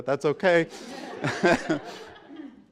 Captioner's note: laughter